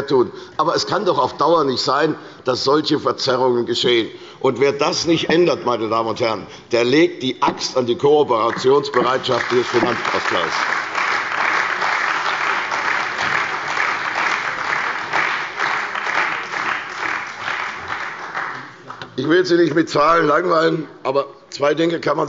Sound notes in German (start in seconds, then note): 11.8 Beifall bei der CDU